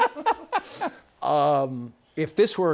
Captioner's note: laughter